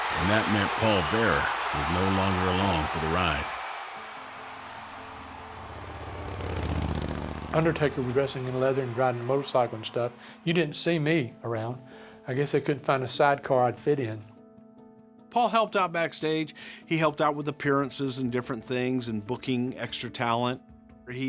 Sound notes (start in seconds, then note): 3.9 dramatic piano music; 4.2 motorcycle revs